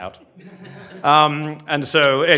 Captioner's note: laughter